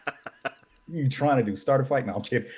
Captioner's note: laughing